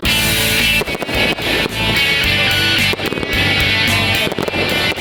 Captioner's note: fireworks explode; upbeat rock music